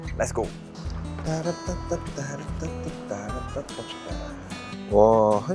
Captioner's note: classic guy in his 30s: humming for no reason